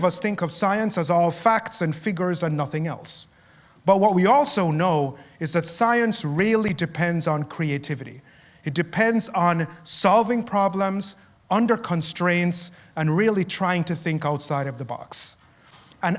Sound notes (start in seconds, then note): none